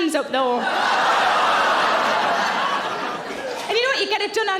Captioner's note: audience laughing